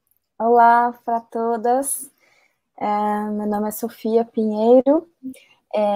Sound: speaks portuguese

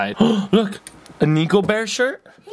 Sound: gasping

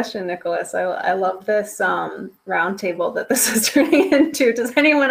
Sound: laughs

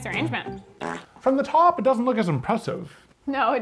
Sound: fart sound effect

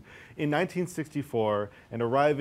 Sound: none

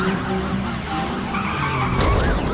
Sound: police car sirens; tires screeching; explosion

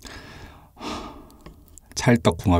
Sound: breathes out; breathes in

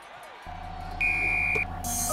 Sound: whistle

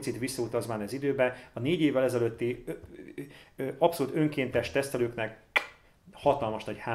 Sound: blows a kiss

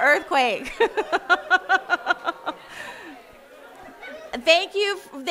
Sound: laughing

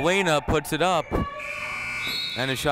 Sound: buzzer sounding

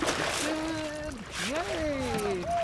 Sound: fish splashing

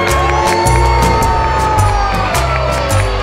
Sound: cheering

